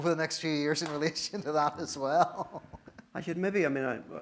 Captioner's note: laughs